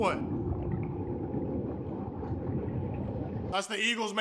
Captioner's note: ominous sound